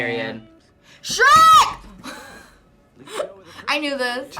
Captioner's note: laughs